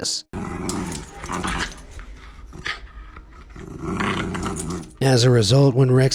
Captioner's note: dog growls